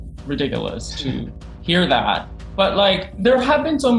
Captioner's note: laughing